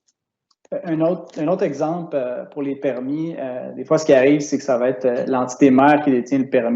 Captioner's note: speaking in foreign language